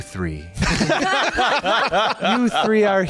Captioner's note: laughing